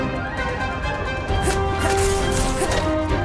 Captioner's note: grunting